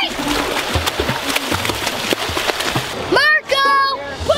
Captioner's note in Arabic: الرش بصوت عالٍ